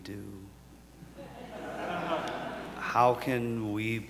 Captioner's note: audience laughs